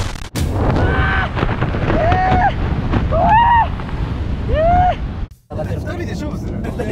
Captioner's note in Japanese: 叫び声